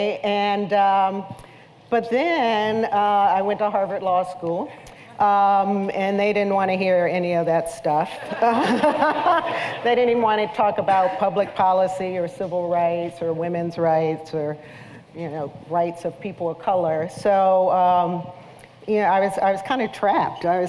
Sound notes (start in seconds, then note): 8.2 laughter